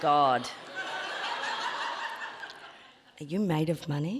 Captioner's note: audience laughing